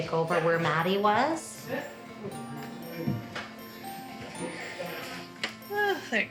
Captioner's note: staff chattering